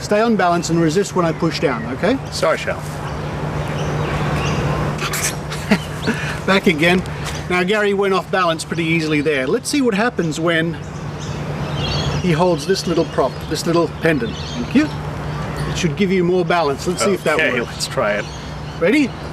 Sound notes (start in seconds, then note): 4.9 laughs